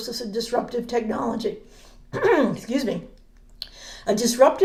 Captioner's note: clear throat